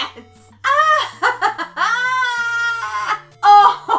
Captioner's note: laughs